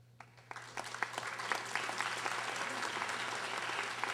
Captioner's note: audience applauding